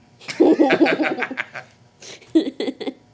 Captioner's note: laughing